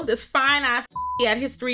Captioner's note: beep